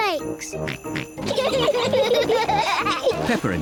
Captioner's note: snorts; both giggle